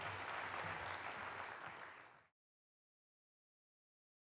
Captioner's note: clapping